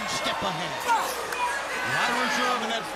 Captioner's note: crowd cheering